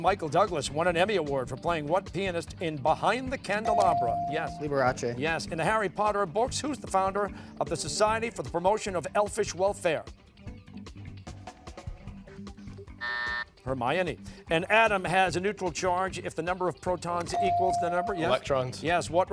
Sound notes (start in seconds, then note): 13.0 buzzer sounding